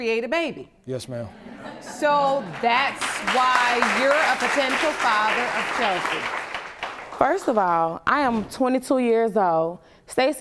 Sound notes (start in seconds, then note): 2.0 audience clapping